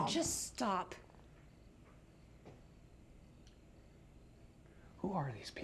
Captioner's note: crickets chirping